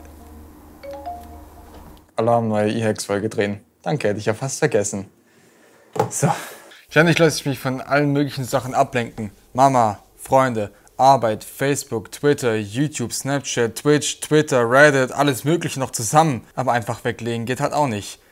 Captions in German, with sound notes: *Alarm* Neue E-Hacks Folge drehen, danke hätte ich ja fast vergessen. Sooo Ständig lasse ich mich von allen möglichen Sachen ablenken Mama, Freunde, Arbeit, Facebook, Twitter, YouTube ... Snapchat, Twitch, Twitter, Reddit, alles Mögliche noch zusammen ... aber einfach weglegen geht halt auch nicht